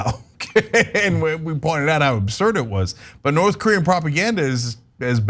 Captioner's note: laugh